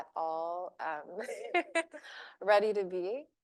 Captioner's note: laughing